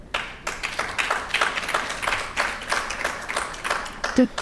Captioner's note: audience applauding